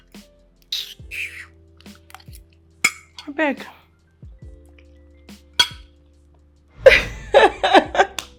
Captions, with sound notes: (Sucks teeth) Please. Ha ha ha.